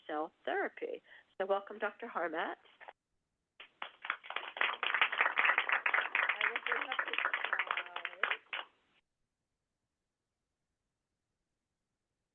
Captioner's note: applause